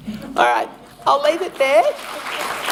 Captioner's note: applause